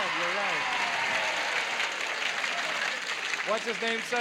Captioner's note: applause